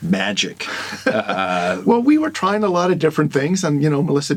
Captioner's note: laughs